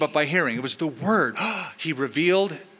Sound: gasping

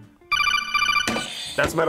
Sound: phone rings; buzzer rings

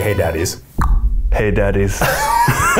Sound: clicks tongue; both laughing

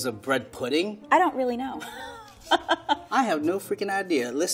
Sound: laughs

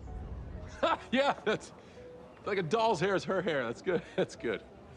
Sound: laughing

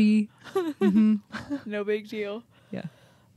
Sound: chuckling

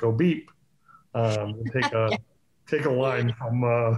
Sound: laughs

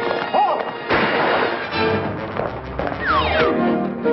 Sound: gun banging

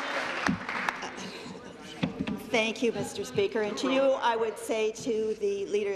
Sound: applause

